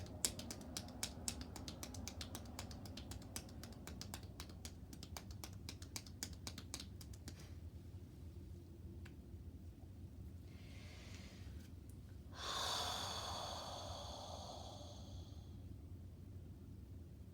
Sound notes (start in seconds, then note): 10.5 breathing deeply